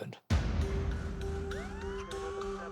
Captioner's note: siren